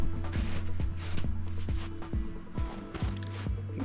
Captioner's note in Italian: Suono dei passi sulla neve